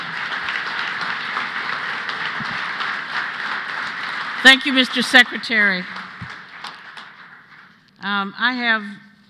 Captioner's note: applause